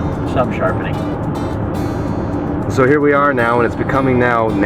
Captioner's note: voiceover